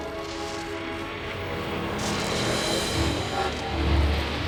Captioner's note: train whistle